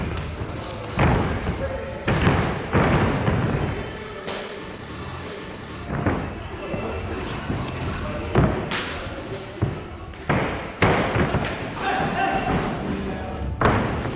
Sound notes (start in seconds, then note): 11.3 grunting